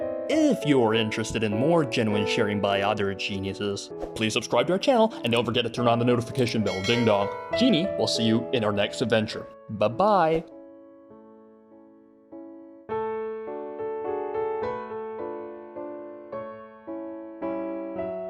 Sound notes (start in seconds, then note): 6.3 ding dong